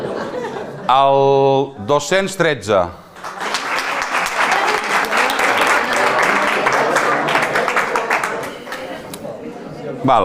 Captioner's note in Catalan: Aplaudeixen molts